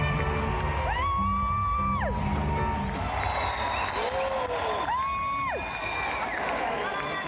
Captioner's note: loud cheering